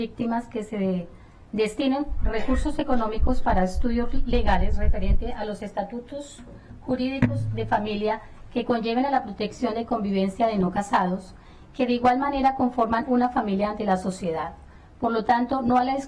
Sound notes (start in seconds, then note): 2.3 speaking spanish